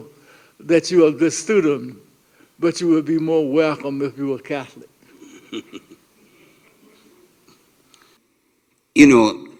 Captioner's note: light laughter